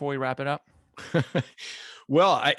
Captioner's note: laughs